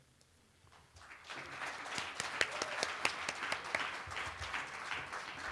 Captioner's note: applause